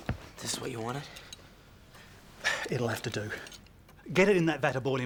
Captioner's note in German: none